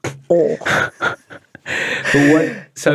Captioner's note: laughing